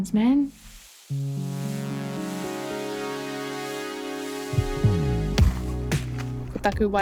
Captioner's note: water spray hissing; slow music